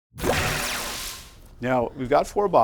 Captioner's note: swooshing Sound